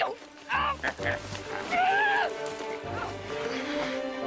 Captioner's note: grunting; dramatic music; grunting